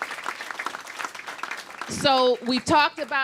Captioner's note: applause